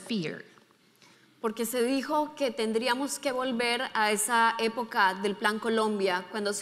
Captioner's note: speaking in foreign language